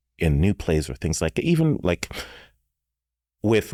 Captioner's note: none